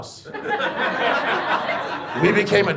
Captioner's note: audience laughs